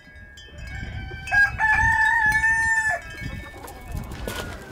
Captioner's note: rooster crowing